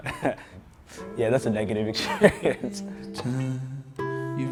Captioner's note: laughs